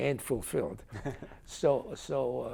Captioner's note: chuckles